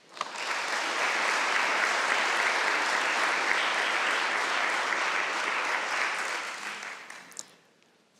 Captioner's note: applause